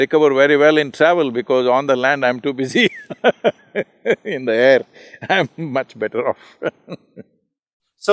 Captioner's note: laughs